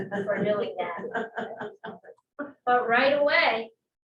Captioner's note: laughter